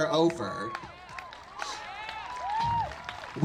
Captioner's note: audience claps and cheers